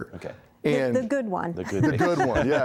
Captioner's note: laughing